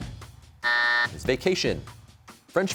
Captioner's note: buzzer sounds